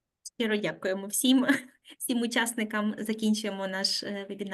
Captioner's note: speaking Ukrainian